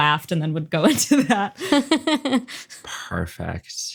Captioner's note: laughs